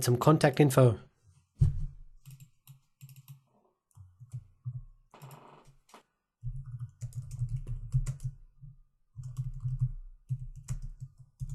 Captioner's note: silence